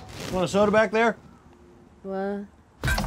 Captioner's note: groggily